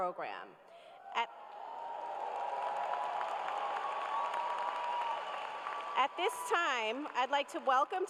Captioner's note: cheers and applause